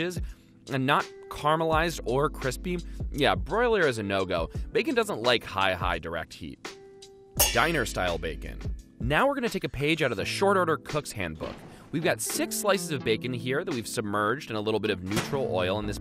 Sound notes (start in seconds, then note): 7.4 pans clanging